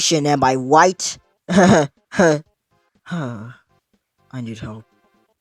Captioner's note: laugh turns to sigh